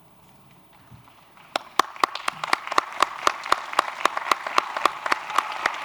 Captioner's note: applause